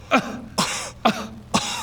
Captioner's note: kuh